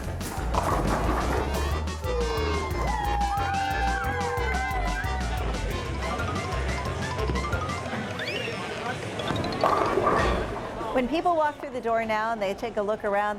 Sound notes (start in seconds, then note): 0.1 sound of pins falling; 2.0 cheering; 9.2 sound of pins falling